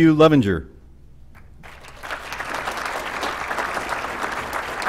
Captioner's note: applause